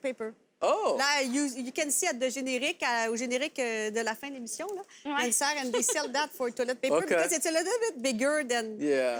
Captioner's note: speaks in french